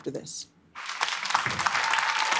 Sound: applause; cheering

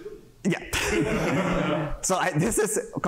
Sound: laughter

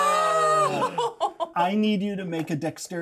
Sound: speaker laughs

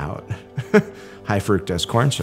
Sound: chuckles

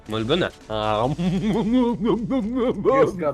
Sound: sounds of happily eating chips

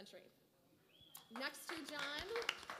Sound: applause

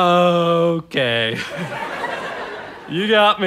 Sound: audience laughter

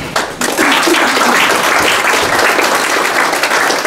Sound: applauding

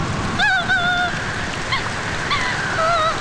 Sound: crying

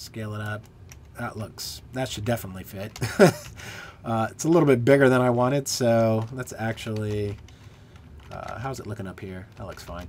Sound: laughter

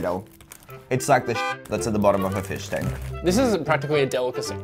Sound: beep

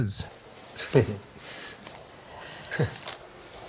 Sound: laughing

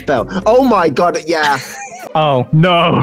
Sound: person laughs

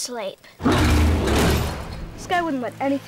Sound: machine roaring

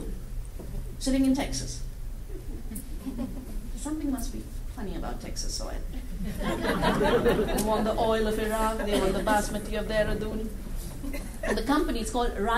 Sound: laughter

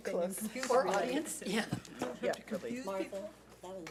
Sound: people chattering

